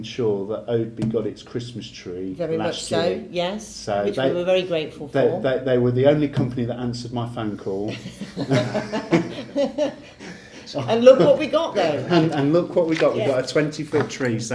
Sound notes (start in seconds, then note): 7.9 laughing